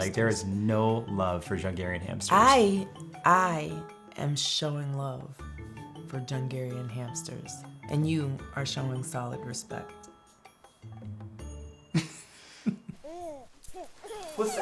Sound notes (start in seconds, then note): 12.0 laughing; 13.0 baby cooing